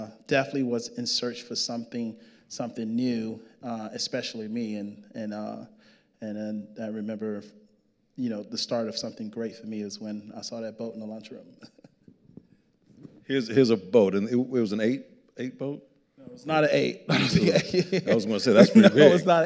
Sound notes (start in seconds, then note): 11.6 chuckles; 17.1 laughing